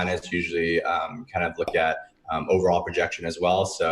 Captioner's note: popping sound